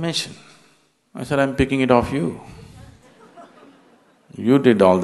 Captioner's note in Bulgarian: смях